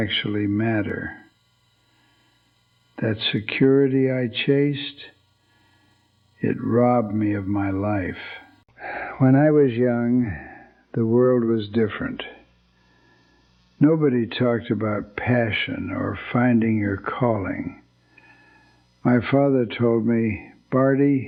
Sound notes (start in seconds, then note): 0.8 whispers; 8.6 sighs